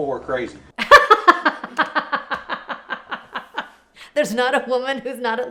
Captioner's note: laughs